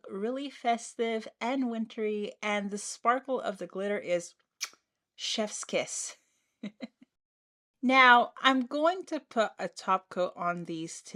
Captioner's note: kiss